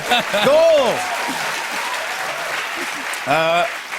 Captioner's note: cheers and applause